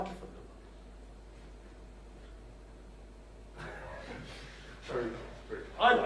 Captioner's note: silence